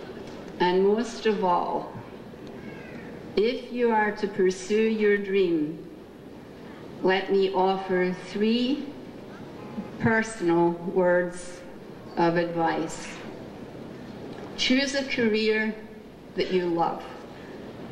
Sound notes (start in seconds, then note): none